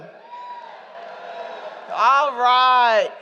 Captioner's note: shouting and Hooting